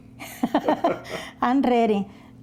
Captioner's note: laughter